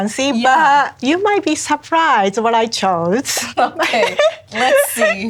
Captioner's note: laughs